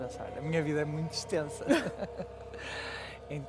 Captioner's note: laughs